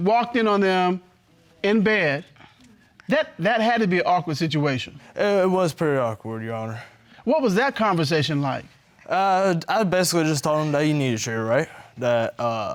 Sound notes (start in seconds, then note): none